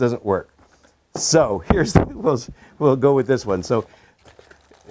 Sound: laughs

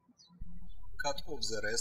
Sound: birds chirping

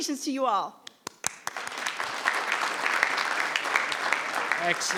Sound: audience clapping

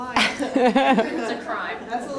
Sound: audience laughs

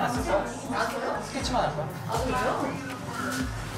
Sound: Devil whispers

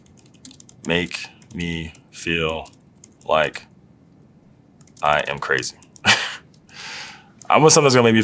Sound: laugh

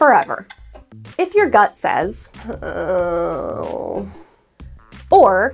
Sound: anxious Noises

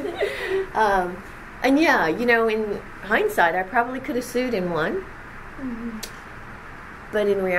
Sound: laughs

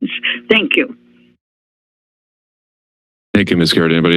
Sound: silence

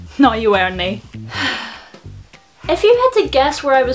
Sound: sighs

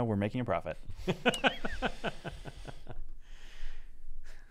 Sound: laughing

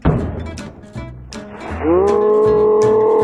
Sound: yells

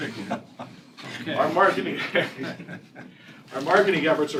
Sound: laughter

